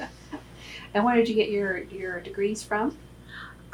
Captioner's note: laughs